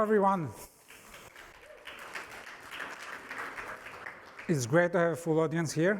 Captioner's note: applause